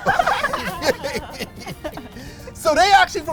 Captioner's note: laughs